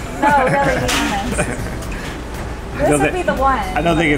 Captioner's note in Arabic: يضحك